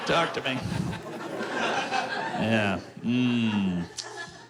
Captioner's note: laughter